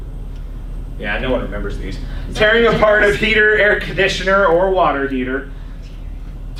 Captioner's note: laughs